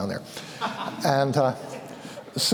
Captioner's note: laughter